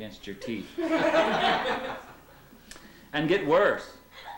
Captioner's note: laughter